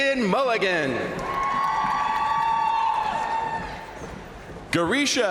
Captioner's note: crowd cheering; crowd applauding